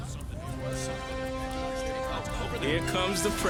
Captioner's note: reporters clamoring